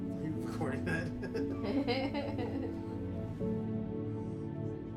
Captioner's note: chuckles